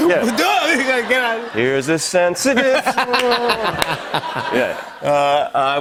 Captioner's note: laughter